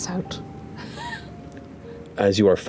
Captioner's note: laughter